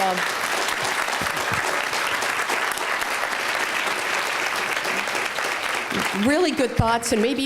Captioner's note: applause